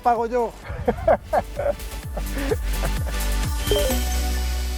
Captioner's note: laughs